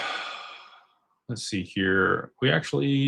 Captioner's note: sighs and gasps